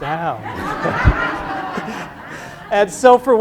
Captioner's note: crowd laughs